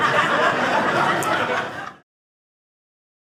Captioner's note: audience laughing